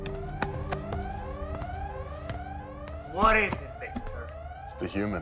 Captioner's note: dramatic music continues; sirens blaring